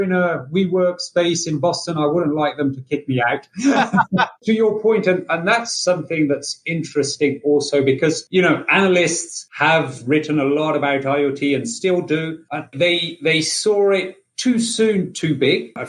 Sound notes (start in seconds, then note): 3.5 laughing